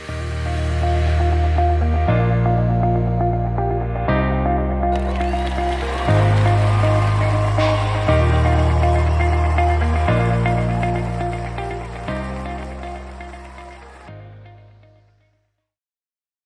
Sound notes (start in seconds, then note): 0.0 upbeat music; 9.7 audience applauding